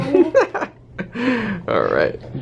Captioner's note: laughs